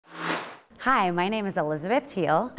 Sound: sound Effects

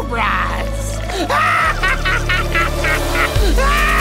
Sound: cackling

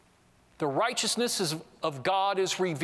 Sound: none

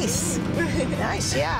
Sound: chuckles

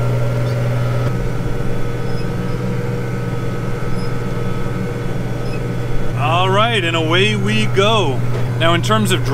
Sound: tractor sound

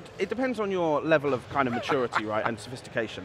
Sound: laughs

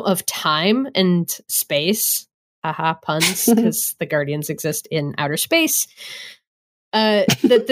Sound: laughs

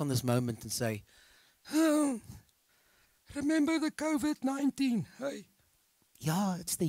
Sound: old man moaning

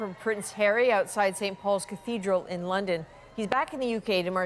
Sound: cheers and Applause

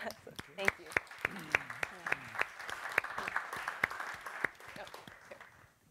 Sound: audience clapping

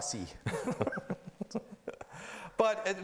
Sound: laughing

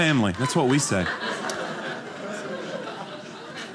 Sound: audience laughing

